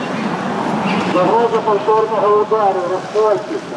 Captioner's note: loudspeaker sound